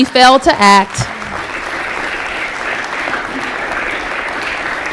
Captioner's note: applause